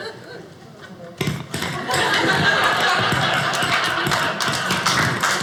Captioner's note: audience laughing